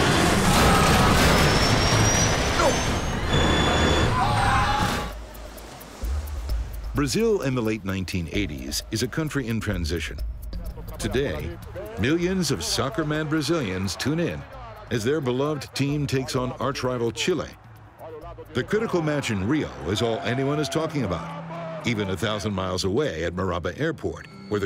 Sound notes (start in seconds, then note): 0.0 wood splintering; 0.0 metal crunching; 3.5 dramatic music; 3.5 passengers screaming